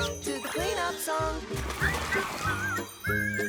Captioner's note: whistling